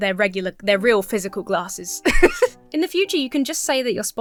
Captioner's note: laughs